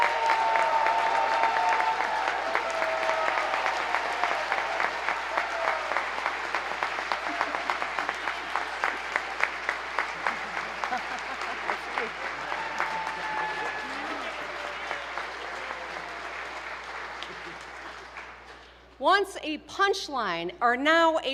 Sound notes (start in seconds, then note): 0.2 applause; 3.2 cheers and applause